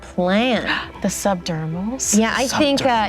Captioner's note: dramatic exclamation